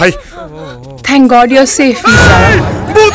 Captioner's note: Screaming